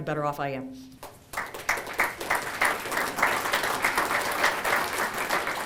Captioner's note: group clapping